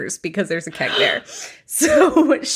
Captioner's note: gasps